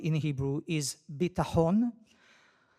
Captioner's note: speaks in foreign language